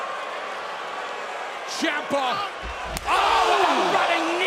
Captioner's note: cheers and applause